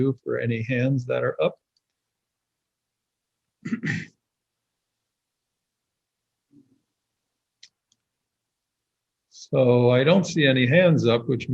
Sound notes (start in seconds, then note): 3.6 clears throat